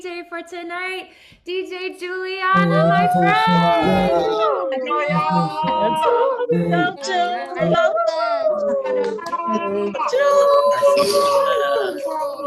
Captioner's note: cheering